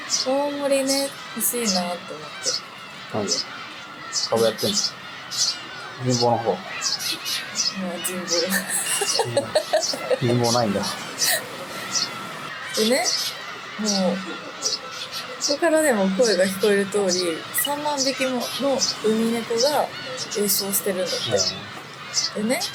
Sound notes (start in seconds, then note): 8.8 laughs it off